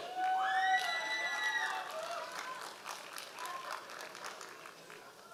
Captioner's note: members of the audience cheering